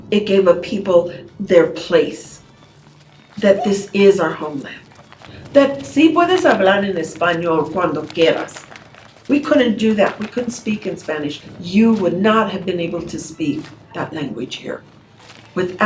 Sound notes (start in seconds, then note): 5.8 speaks Spanish